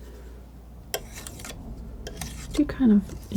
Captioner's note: scratching